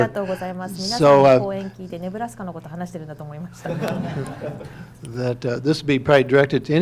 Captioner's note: speaking foreign language